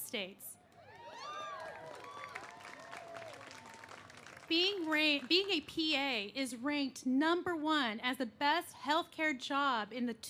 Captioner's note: cheers and applause